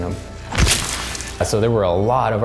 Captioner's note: mimic squishes